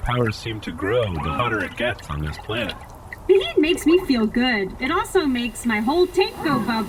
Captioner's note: giggles